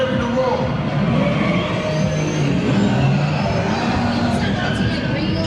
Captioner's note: tires screeching